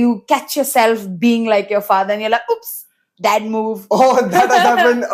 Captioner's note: laughs